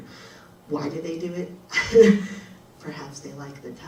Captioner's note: chuckles